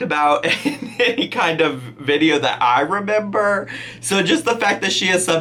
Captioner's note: laughing